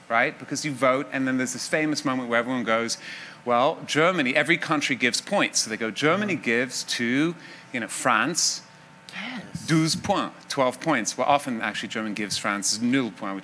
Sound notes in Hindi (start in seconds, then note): 8.5 फ्रान्सीसी भाषा; 12.5 फ्रान्सीसी भाषा